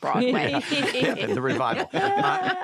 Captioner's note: laughter